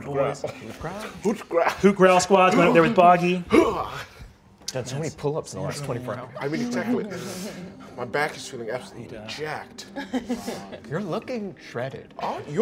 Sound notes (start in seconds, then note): 3.5 grunting; 9.9 laughing